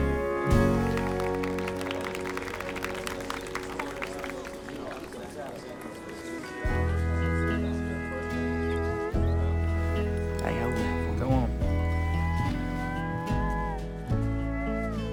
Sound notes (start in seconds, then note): 0.0 audience applauding; 5.9 romantic country music